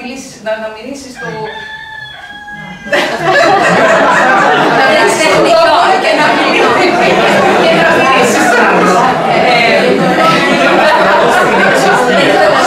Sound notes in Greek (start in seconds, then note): 1.1 ακούγεται κουδούνισμα κινητού με ήχο λάλημα κόκορα; 2.4 γέλιο και αστεία σχόλια στην αίθουσα λόγω της ξαφνικής διακοπής